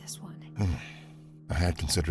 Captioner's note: sighs